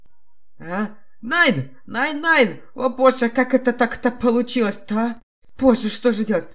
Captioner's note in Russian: Немецкий акцент